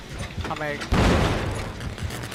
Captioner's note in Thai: เสียงเครื่องปั่นไฟ ระเบิด